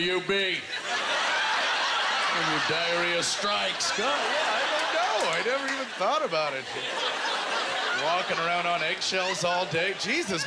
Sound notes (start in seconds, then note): 0.1 audience laughter; 7.7 audience laughter